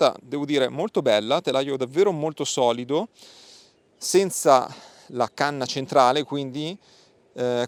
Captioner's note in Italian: sbuffare